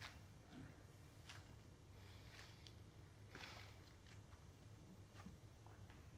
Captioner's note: sniffing